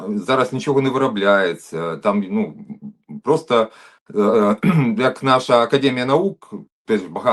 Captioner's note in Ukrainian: прочищення горла